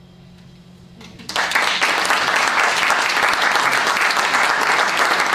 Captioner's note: applause